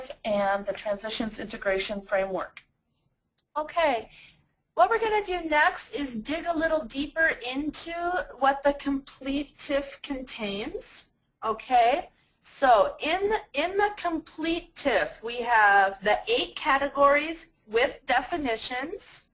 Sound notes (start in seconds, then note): 3.8 voiceover